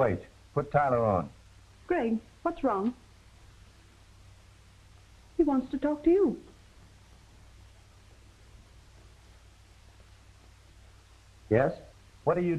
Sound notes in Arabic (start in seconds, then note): none